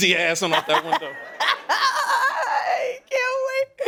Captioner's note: laughing